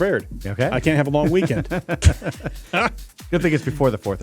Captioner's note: laughing